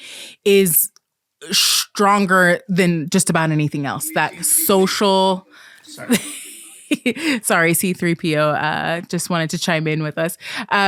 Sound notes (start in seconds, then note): 3.4 C-3PO makes noise